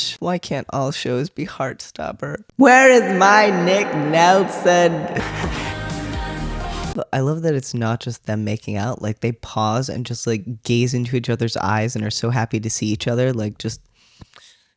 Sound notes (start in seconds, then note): 2.4 echoing